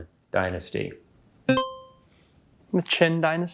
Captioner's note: buzzer chimes